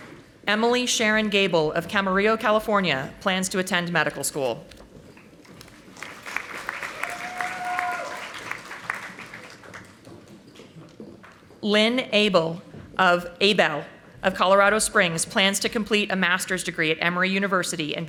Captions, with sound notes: Emily Sharon Gable of Camarillo, California plans to attend medical school. (audience applauding) Lynn Abell of Abell of Colorado Springs plans to complete a master's degree at Emory University